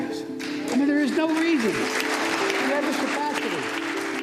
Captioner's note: audience applauding